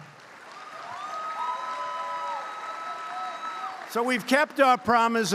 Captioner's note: applause